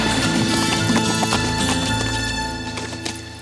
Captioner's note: hooves clop